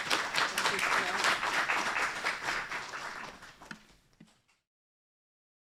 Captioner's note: applause